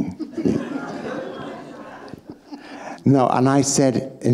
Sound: audience laughing

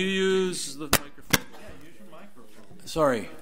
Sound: overlapping chattering

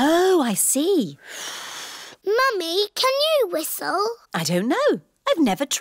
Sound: blows

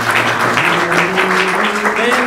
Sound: applause

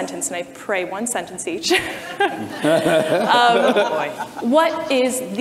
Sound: audience and panelists laugh

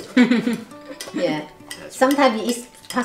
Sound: laughs

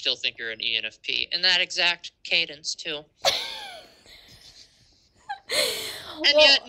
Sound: laughter

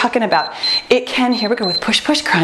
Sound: timer beeps

